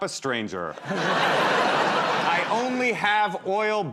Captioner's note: laughter